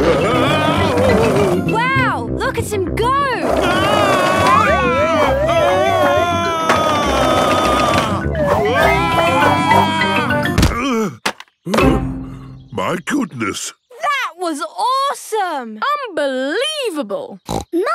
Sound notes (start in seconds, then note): 4.0 shouting; 11.7 panting